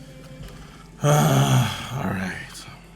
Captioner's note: frustrated noises